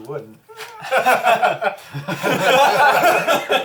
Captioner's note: all laugh